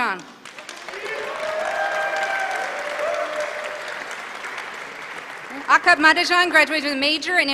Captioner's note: applause